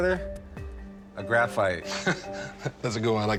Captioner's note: chuckles